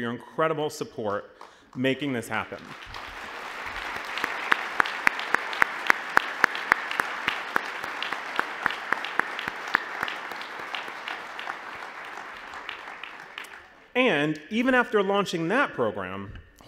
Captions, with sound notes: for your incredible support in making this happen. (applause) And, even after launching that program,